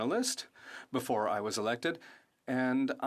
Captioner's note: speaking French